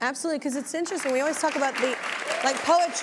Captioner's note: audience applauding